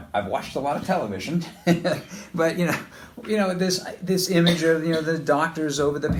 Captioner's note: laughs